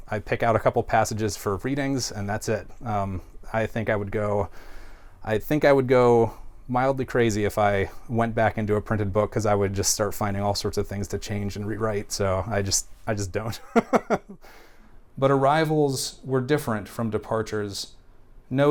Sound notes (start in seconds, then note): 13.6 laughs